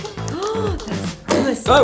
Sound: gasps

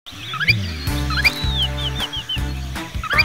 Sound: sound of bird

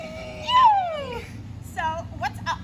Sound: girly Shrills

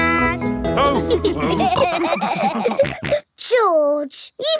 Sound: all laughing

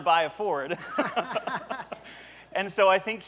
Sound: laughter

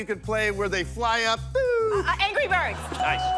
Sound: hums

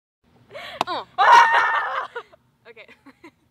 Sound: laughs; screams

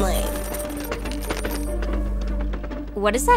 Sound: scratching, clattering

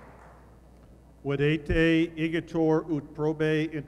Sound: speaking latin

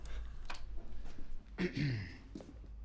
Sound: clears throat

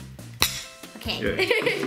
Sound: glass clinks

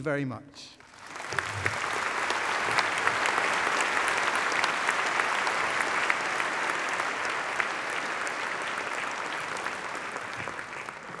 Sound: applause

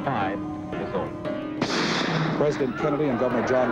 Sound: gunshot

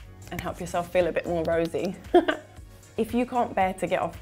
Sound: laughs

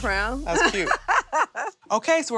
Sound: laughs

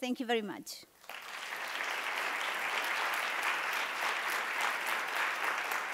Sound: applause

